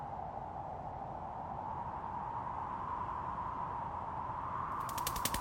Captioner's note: wind howling